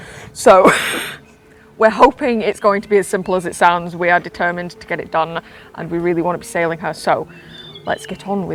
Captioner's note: laughs; calm Music Slowly Builds